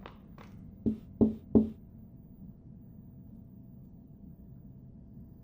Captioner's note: knocking from above